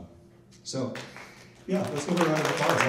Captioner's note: people applauding